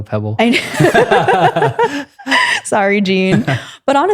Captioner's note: both laughing